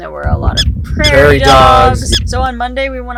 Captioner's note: prairie dog chirping